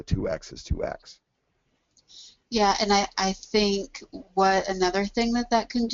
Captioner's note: voiceover